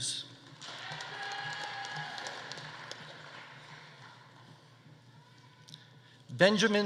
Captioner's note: audience applauding; audience cheering